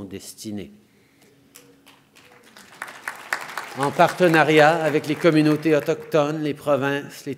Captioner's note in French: Applaudissements